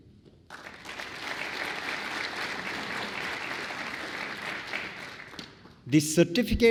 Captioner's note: applause